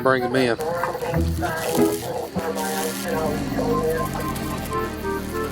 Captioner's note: police radio static